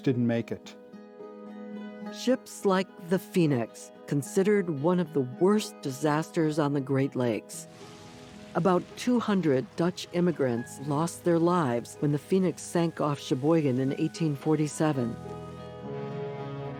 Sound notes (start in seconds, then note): 7.7 flames burning